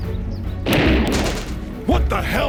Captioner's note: gunfire rattles